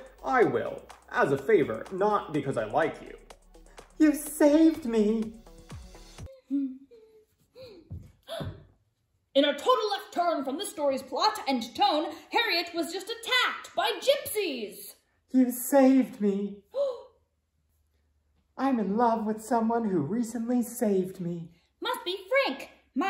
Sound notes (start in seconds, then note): 7.4 Emma gasps